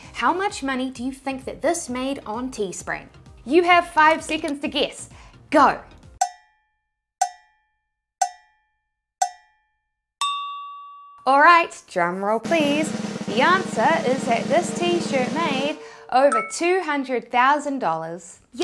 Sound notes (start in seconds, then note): 6.0 cowbell timer tings; 10.2 high-pitched bell dings; 12.4 drum roll drumbeat